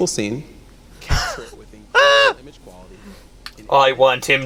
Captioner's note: laughs